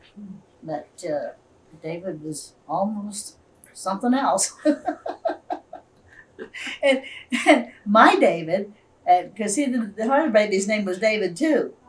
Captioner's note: laughter